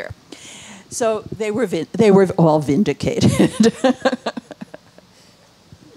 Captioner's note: laughing